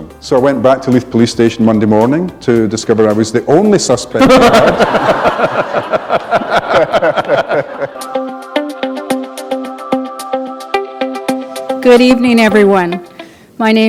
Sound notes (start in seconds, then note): 4.2 laughter